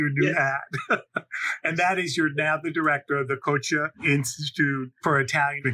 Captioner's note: laughs